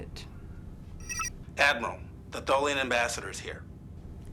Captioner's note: Intercom - Darwin